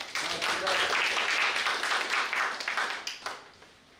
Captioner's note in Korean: 박수